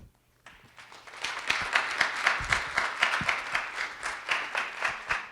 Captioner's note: audience applauding